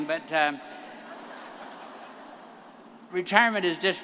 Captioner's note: all laugh